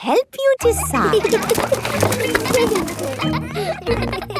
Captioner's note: kids giggling